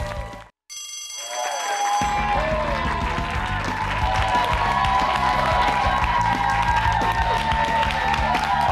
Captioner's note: bell rings; cheers and applause